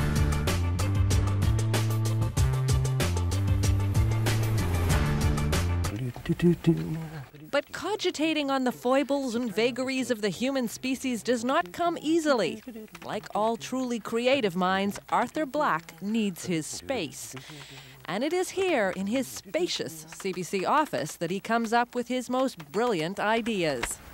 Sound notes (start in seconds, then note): 5.8 man hums